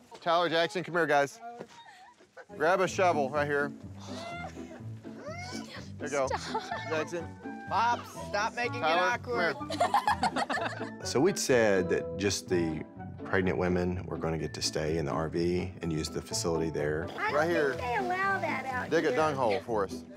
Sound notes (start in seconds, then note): 9.5 laughter